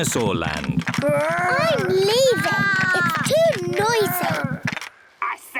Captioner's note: both roar